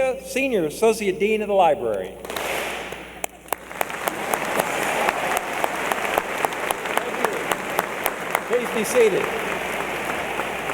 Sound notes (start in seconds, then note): 2.3 clap; 3.4 applause